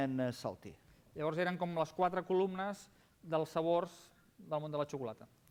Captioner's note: non-english speech